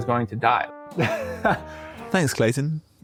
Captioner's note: laughs